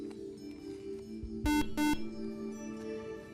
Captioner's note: beep